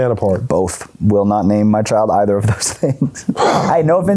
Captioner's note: laughs